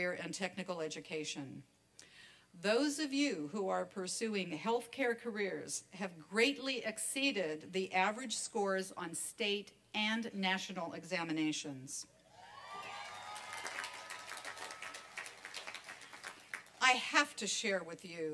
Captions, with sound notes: AND TECHNICAL EDUCATION. THOSE OF YOU WHO ARE PURSUING HEALTHCARE CAREERS HAVE GREATLY EXCEEDED THE AVERAGE SCORES OF STATE AND NATIONAL EXAMINATIONS. [ APPLAUSE AND CHEERING ] I HAVE TO SHARE WITH YOU